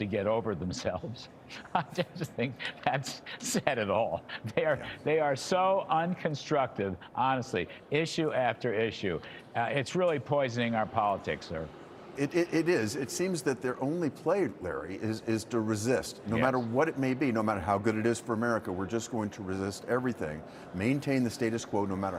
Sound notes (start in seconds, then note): 5.7 laughter